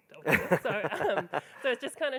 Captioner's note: laughing